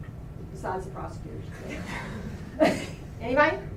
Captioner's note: laughter